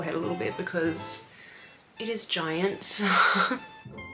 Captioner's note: laughs